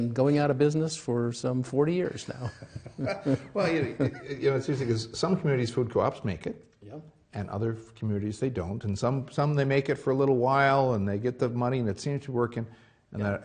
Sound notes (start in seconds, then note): 2.2 laughing